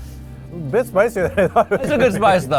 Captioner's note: laughs